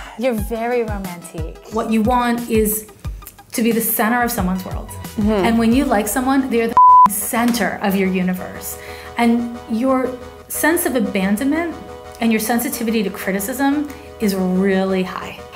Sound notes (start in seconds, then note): 6.7 beeps